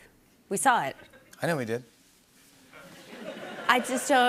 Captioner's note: laughter